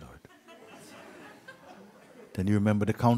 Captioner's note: laughter